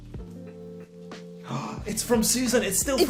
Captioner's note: gasps